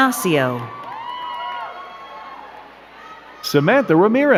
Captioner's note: crowd cheering and clapping